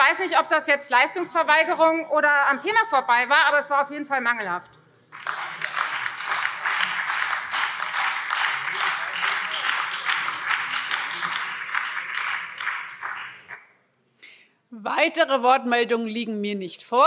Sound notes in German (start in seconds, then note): 5.1 Beifall Freie Demokraten, BÜNDNIS 90/DIE GRÜNEN und vereinzelt AfD